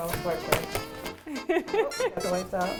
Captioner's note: laughs loudly